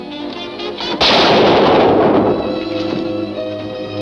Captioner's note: gun shot